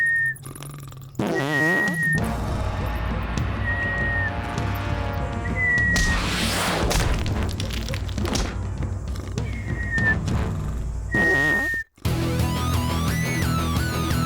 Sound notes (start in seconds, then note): 2.2 sniffing